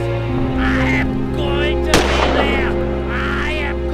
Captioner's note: gun fires